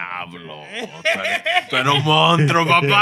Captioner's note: non-english Speech